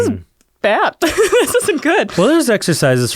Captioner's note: laughs